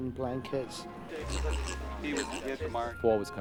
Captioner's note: grunting